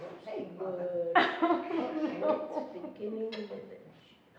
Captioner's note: laughing